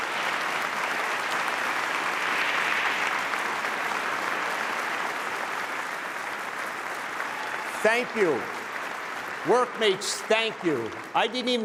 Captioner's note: applause